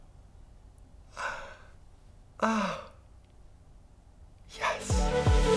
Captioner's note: metal clicks; happy sighs; exhales low voice